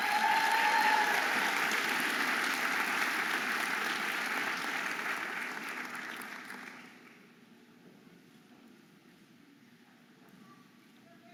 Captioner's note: audience applauding and cheering